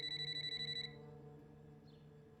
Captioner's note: phone ringing